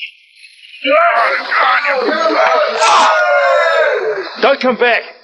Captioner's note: man groans